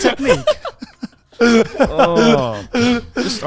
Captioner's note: all laughing